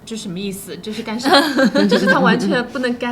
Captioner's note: laughter